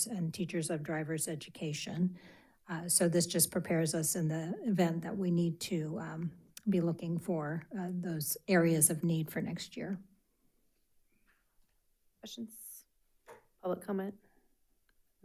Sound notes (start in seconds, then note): none